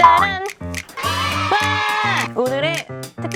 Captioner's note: applause and cheering sound